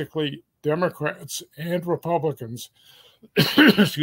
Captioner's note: cough